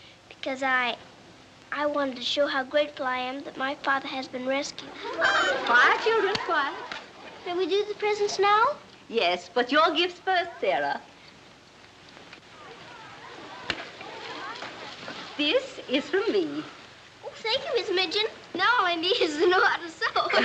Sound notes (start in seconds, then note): 5.0 cheering